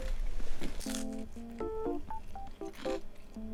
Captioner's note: Crunch; omnomnom